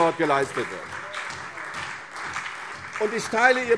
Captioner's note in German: Beifall